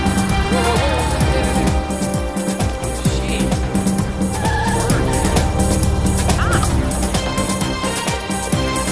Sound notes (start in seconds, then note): 4.0 tires squeal